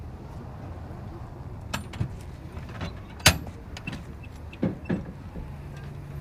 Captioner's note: door latch jingles